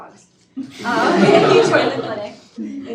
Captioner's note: students laugh